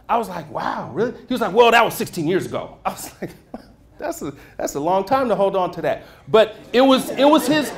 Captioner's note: laughter